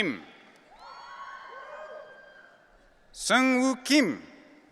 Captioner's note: audience cheering